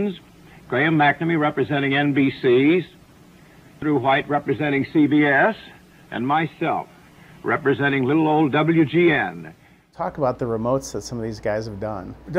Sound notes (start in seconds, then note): none